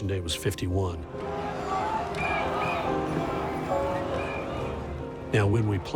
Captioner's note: crowd chanting, whistling